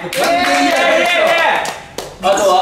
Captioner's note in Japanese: 拍手